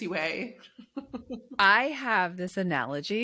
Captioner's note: chuckles